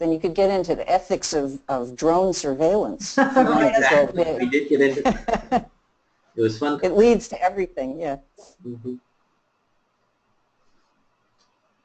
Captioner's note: laughter